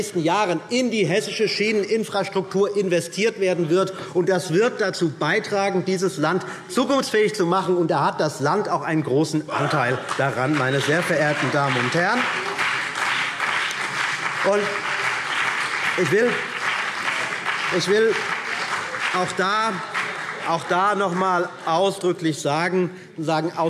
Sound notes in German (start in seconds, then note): 9.5 Beifall BÜNDNIS 90/DIE GRÜNEN und vereinzelt CDU